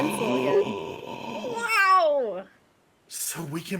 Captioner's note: person gasping